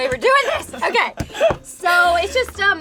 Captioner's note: laughing